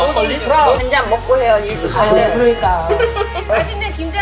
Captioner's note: laughter